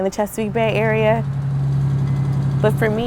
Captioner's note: engine hums